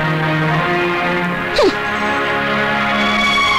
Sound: scoffs

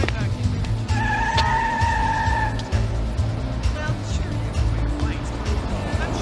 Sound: upbeat music continues; tires squealing

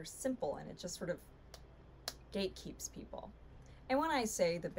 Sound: slaps hand

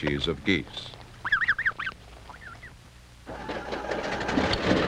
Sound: motor sound

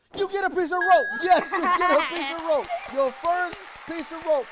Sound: cheering

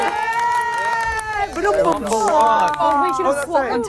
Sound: contestants cheering

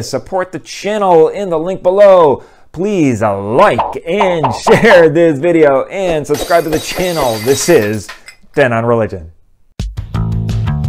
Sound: glass breaking

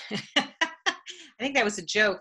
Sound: laughing

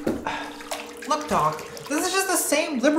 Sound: exhales

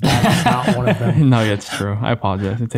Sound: everyone laughing

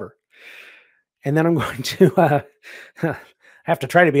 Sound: laughing

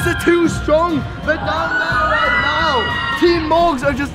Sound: crowd screams

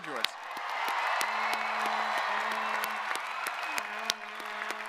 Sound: audience applauding

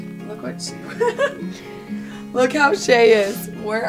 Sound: laughing

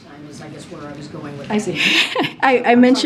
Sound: laughs

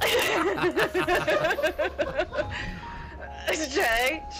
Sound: laughs

